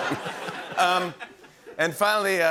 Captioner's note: laughter